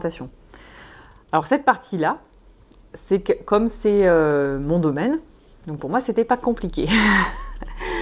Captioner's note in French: rires